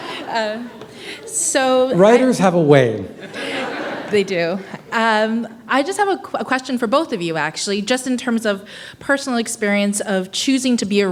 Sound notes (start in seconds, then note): 3.1 laughter